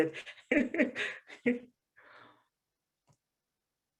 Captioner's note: laughs